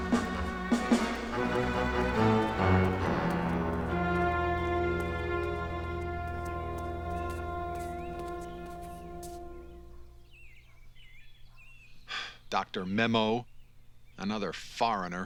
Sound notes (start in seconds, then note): 7.7 birds chirping; 12.0 sighs